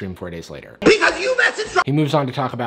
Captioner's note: Shane shouting